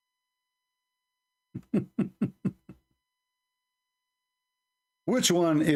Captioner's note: Ketawa